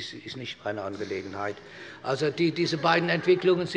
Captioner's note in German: Heiterkeit bei Abgeordneten der SPD